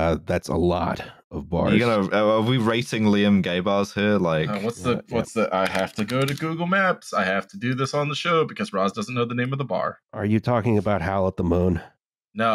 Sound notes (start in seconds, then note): 5.6 keyboard tapping